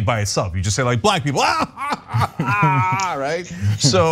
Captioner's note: laugh